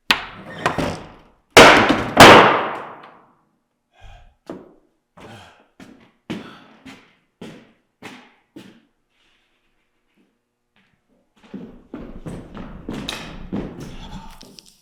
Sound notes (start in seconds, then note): 0.3 door thuds; 1.6 board thuds; 5.2 Jacob panting; 11.4 feet stomping